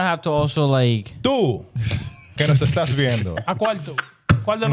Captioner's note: speaking In Foreign Language